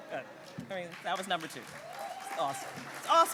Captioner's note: audience laughing and applauding